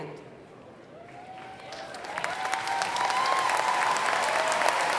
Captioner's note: applause